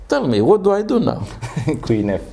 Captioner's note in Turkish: Gülüşmeler